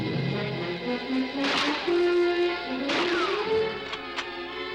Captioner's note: guns firing; bullet ricocheting; gun clicking